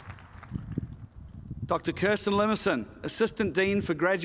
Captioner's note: applause